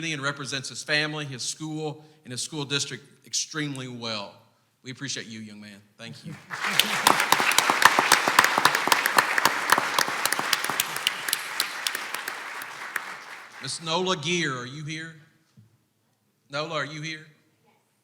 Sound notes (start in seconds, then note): 6.3 clapping